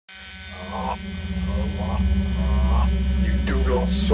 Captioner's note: tattoo machine buzzing